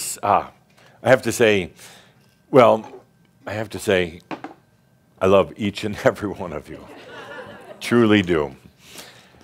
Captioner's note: more chuckles